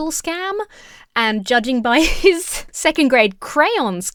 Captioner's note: chuckles